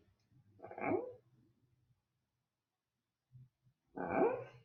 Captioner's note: confused doggy sounds